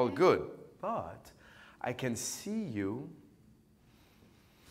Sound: inhales deeply

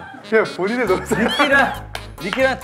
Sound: claps

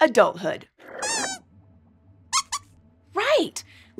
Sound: squeaks squeaks

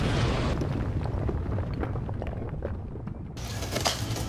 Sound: explosion

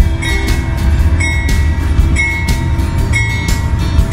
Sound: train bell

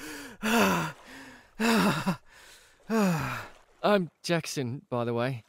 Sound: satisfied sigh

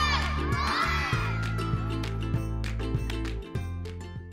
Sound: crowd chanting

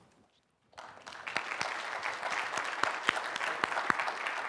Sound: audiences clapping

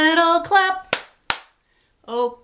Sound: claps twice

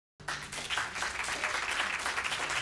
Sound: applause

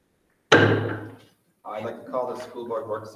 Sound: speaking faintly off mic; mallet bangs

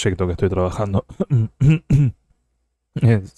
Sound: uncomfortable noises

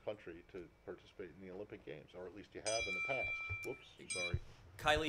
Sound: phone rings

